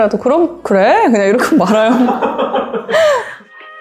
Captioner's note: laugh